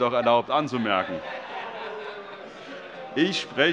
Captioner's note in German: Heiterkeit und Zurufe